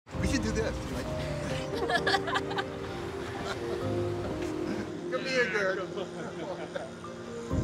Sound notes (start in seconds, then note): 1.8 laughs; 6.0 laughter